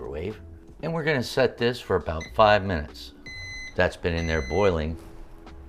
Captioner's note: microwave beeper goes off